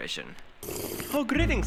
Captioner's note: boba slurp